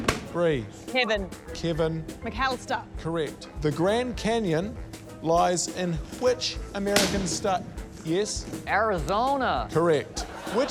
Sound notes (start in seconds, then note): 0.0 balloons pop; 6.8 balloon pops